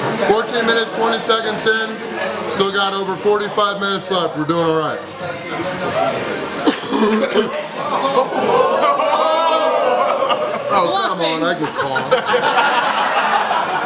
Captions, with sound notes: 14:20 - Still have over 45 minutes left. We're doing alright. [Cough] [Crowd moans] Oh c'mon! I just coughed.